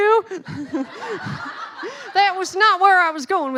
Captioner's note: laughing